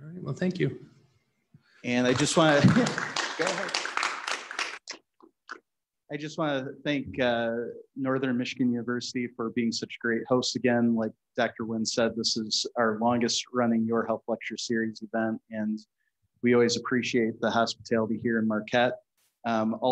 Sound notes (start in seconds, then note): 1.9 audience applauds